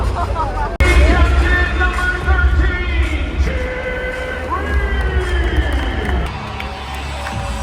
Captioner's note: sob